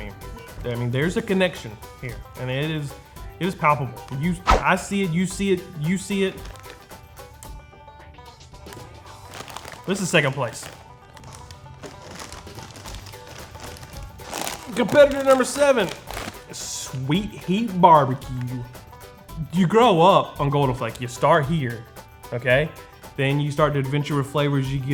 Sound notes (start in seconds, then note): 11.7 bags rustling